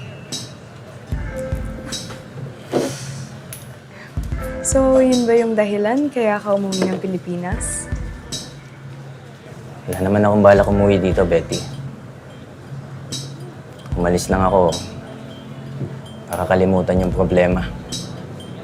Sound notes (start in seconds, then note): 2.7 exhales